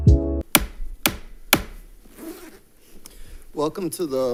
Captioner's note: gavel sounds